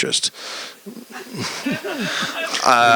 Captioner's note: laughter